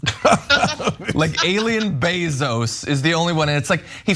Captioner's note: laugh